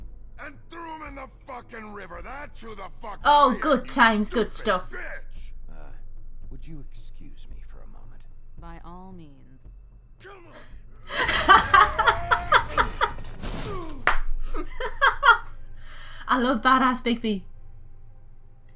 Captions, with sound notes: Oh, good times! Good stuff! [Laughs] [Clap] [More laughing] I love bad-a** Bigby!